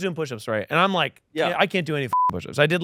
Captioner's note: beep